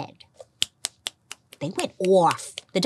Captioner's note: fingers snapping